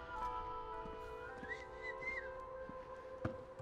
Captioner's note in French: sifflements